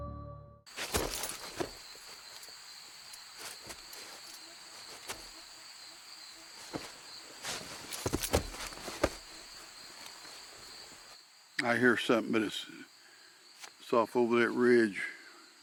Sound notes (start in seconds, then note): 0.8 footsteps pattering; 3.1 insects chittering and buzzing